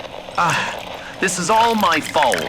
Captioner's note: wringing water out of rag fx